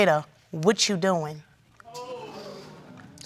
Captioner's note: audience exclaims